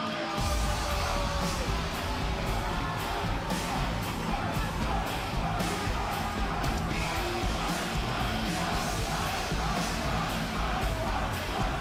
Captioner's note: crowd cheering